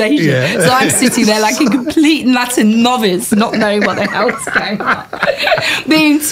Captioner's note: laughter